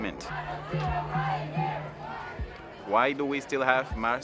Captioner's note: people protesting